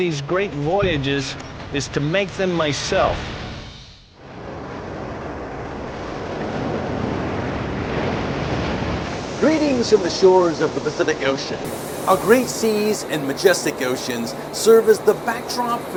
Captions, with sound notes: these great voyages is to make them myself. (waves crashing) - Greetings from the shores of the Pacific Ocean. Our great seas and majestic oceans serve as the backdrop